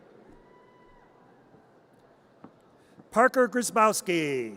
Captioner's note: audience cheers